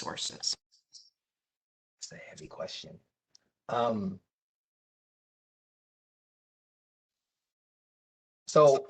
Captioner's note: professor speaking